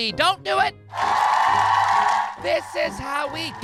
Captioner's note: cheering, ovation